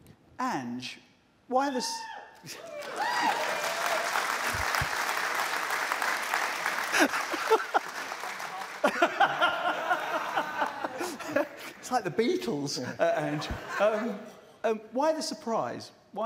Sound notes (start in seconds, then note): 2.4 cheers and applause; 6.9 laughter